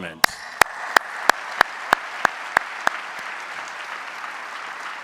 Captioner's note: audience applauding